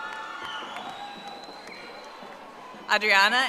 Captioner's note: audience applauding